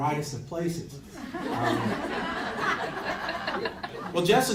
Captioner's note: crowd laughs